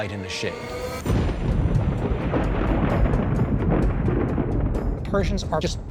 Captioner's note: thunder